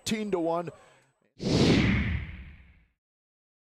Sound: whoosh

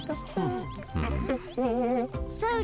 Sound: Ramona hums; grunting in satisfaction

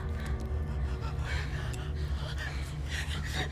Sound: panting

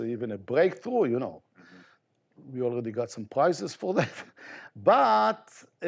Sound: chuckles

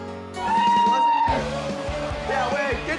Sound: people cheering

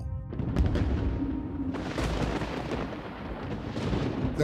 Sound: thunder rolling

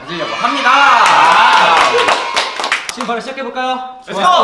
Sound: clap clap clap

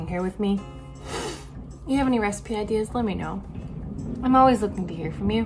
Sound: sniffs

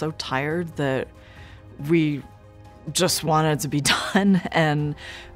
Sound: laughs

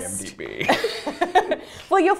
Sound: laughter

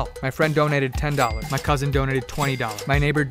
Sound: cash register bell rings

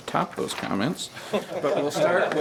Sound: members laughing

